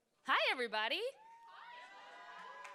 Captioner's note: cheers